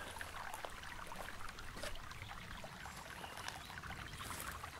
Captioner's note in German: Knisternde Geräusche vom Barfußgehen